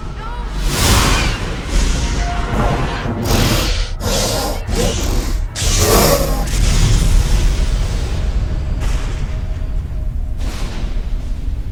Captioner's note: thunder & lightning